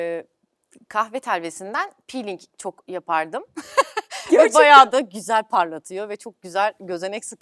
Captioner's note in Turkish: kahkaha